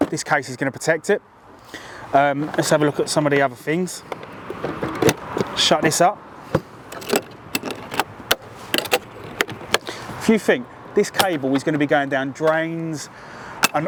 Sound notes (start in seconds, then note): 4.0 camera clatters; 6.8 clips clicking